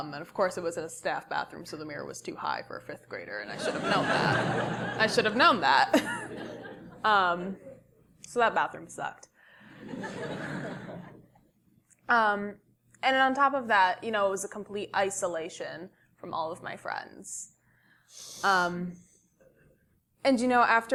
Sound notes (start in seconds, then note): 5.9 laugh; 9.8 laugh